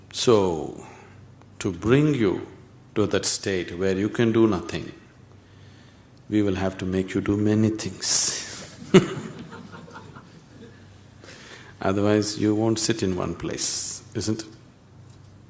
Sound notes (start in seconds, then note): 8.6 laughs